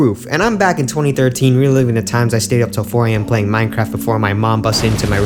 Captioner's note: none